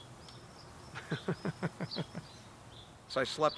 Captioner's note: laughing